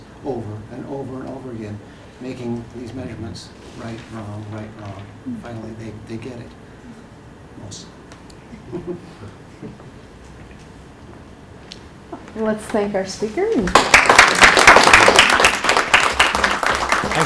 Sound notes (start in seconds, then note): 8.5 laughter; 13.6 applause